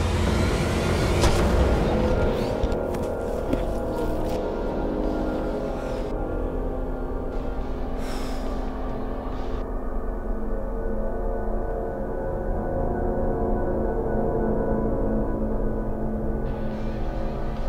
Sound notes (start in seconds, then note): 0.4 crash; 7.9 lets out deep breath